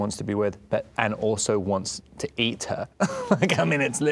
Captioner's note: laughing